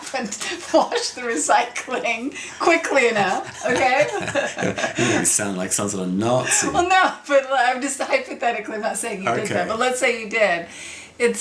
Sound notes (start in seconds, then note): 5.0 both laughs